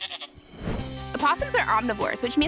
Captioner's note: goat bleating